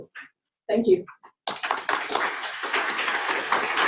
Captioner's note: applause